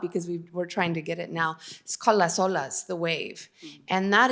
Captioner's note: spanish